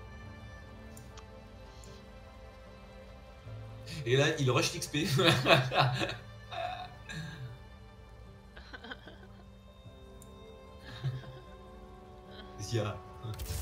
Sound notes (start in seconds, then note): 8.6 forced laughter; 10.8 laughs